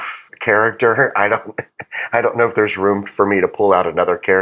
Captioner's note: laugh